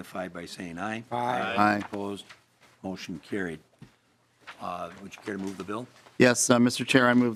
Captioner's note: chorus of ayes